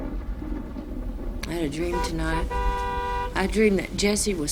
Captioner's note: more horn honkimg